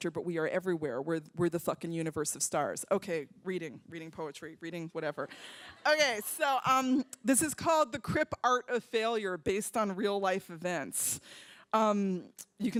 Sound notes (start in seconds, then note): 5.7 laughter